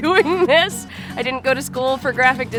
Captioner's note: laughing